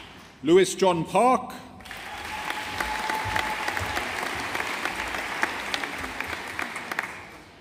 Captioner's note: audience applauding